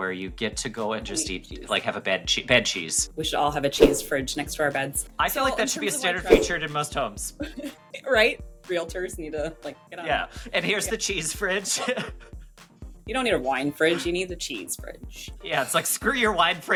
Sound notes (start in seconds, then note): 11.6 both laugh